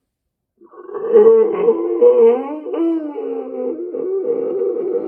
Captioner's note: Chuck gasps for breath